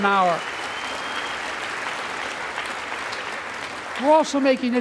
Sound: applause

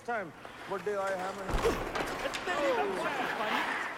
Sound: speaking in Punjabi

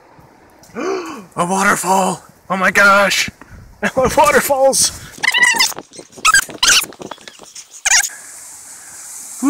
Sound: gasp

